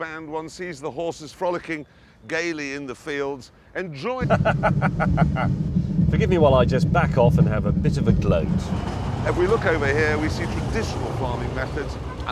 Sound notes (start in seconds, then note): 4.2 laughs